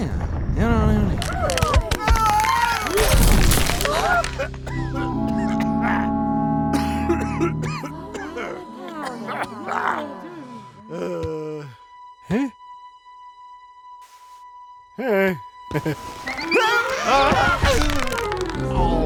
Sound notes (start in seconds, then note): 1.1 crashing; 1.2 screaming; 4.2 crowd gasps; 5.2 coughing; 16.2 screaming; 16.9 crashing